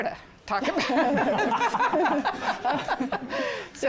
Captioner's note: laughter